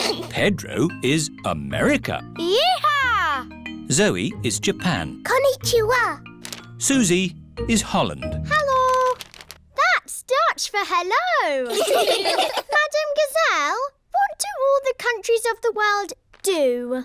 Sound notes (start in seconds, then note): 11.6 laughter